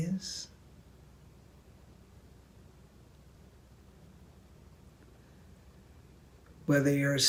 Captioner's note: silence